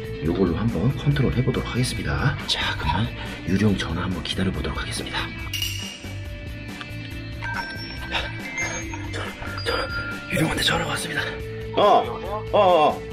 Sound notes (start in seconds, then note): 7.3 the phone is ringing!